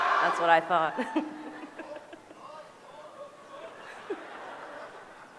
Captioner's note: laughter